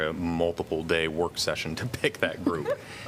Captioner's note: laughter